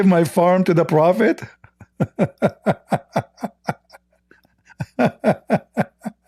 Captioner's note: Ketawa